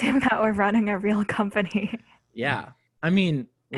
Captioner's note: laughs